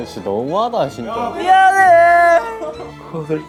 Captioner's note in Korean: 엉엉